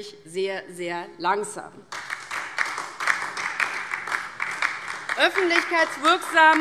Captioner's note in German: Beifall